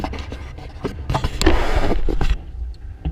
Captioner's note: GoPRO HINGE CREAKING